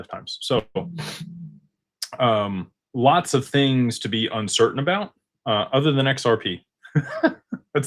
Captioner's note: snorts; laughter